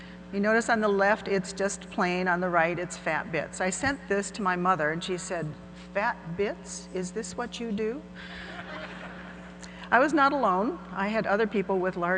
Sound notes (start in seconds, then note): 8.4 audience laughing